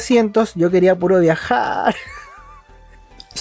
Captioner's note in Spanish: risas